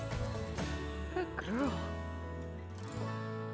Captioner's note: affectionately to cow